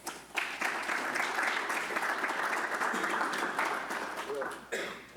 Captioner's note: audience applauding